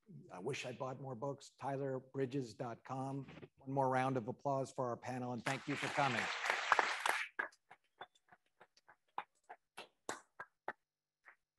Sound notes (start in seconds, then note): 5.5 attendees applauding